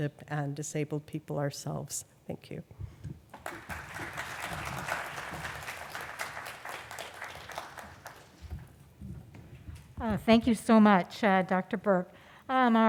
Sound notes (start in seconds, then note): 3.3 applause